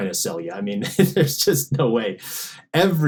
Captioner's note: laughs